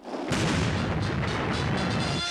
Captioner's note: loud bang